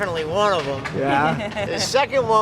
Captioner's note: laughs